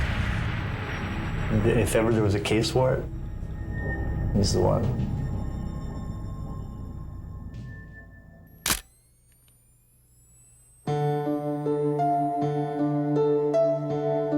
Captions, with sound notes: IF EVER THERE WAS A CASE FOR IT, HE'S THE ONE. (camera shutter click) [sad music]